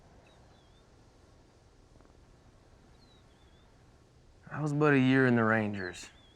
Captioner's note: birds chirping outside